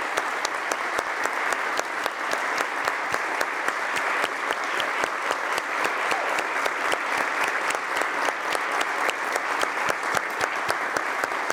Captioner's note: applause